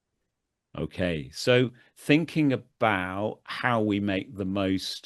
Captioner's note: laughs